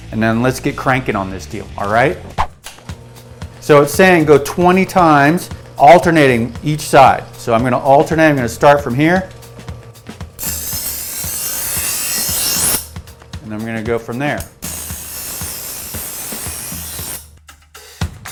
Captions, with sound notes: and then let's get crankin' on this deal, alright? So it's saying go 20 times alternating each side, so I'm gonna alternate, I'm gonna start from here. (metal sharpening) And I'm gonna go from there. (metal sharpening)